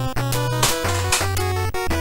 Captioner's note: bonk